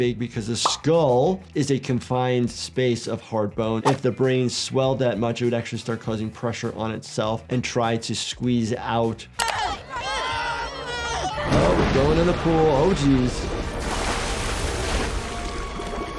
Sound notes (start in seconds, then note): 9.4 Morty and Summer clamoring